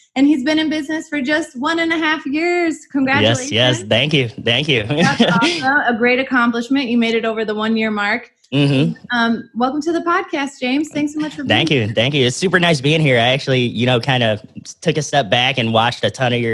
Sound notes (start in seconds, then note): 4.8 laughs